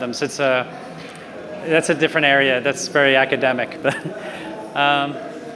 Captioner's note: laughs